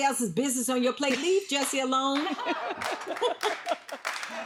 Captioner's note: Wendy laughs; audience claps